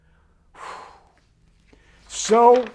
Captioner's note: exhales